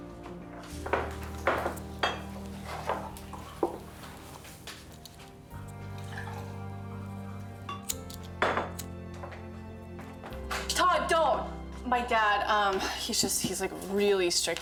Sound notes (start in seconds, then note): 6.0 liquid pouring; 7.8 lighter flicks